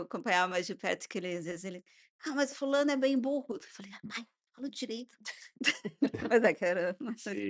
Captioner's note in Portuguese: risadas